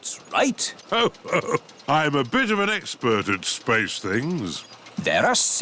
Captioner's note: chuckles